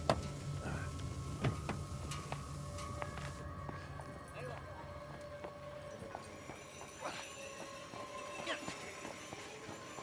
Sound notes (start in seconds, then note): 0.3 eerie music; 4.9 people chattering faintly